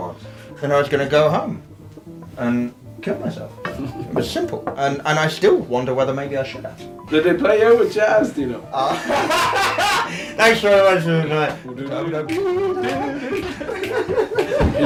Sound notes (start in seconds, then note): 8.8 laughs